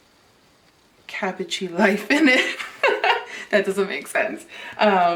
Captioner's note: laughs